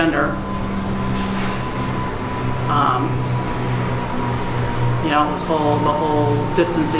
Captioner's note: airy white noise rumbling